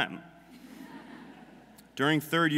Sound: audience laughing

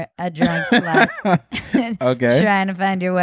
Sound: laughing

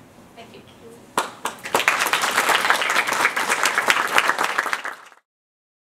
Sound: applause

